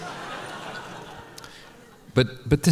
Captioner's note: laughter